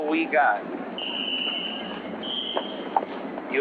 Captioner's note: whistle blowing